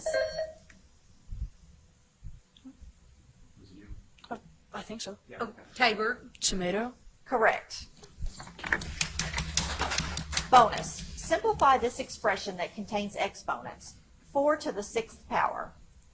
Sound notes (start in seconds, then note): 0.1 buzzer chimes; 8.6 loud tapping on podium; 8.7 audience applauds